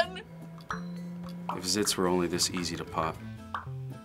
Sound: popping

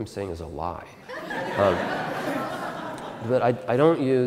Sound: audience Laughter

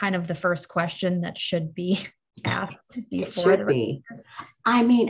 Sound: laughs

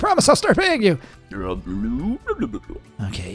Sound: George mumbling

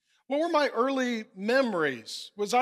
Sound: none

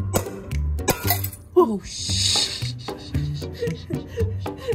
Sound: glass shattering

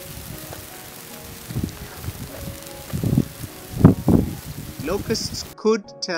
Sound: sound of locust swarm increasing

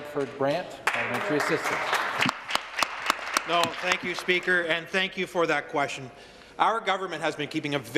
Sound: applause

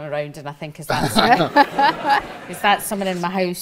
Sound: audience laughs

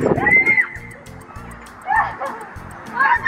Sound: squealing

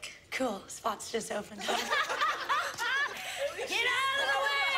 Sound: laughter

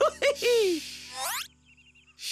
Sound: laughs

